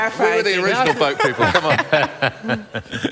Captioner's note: laughter